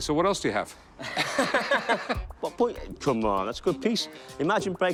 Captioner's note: laughter